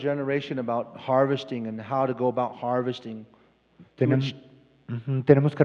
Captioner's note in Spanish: Expositor habla en inglés